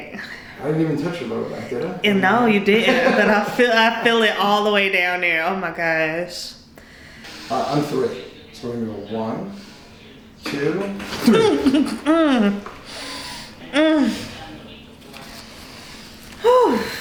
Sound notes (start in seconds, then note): 11.9 joints popping